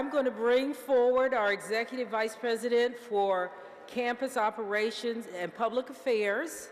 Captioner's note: none